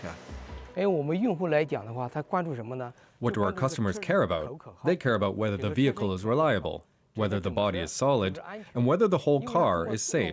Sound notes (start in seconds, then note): 3.1 speaking alternate language